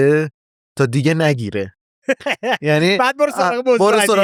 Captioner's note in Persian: خنده